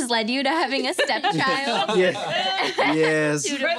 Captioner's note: laughing